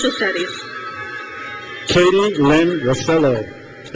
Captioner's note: crowd cheers